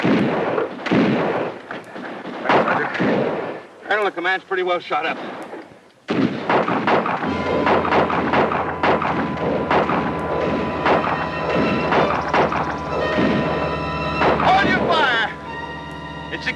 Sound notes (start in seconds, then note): 6.0 guns fire; 7.2 ominous orchestral music